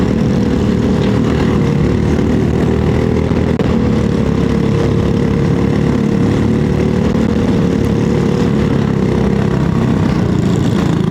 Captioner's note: engine noise